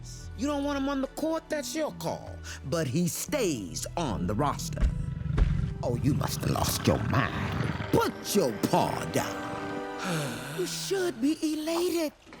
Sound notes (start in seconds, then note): 4.8 Jett growling; 9.2 sighs